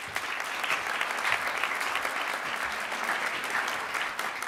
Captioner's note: audience applauds